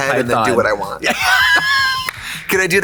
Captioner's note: Katya laughs